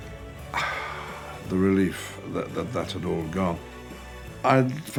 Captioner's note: sigh